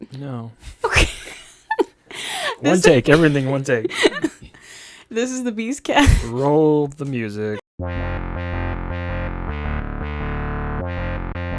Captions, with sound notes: - No. (laughing) - One take, everything one take. - This is the Beast Cast. - Roll the music. (upbeat music)